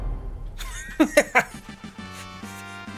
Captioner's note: laughs